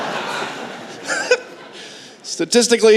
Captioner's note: laughter